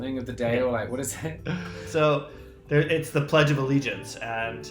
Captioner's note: laughing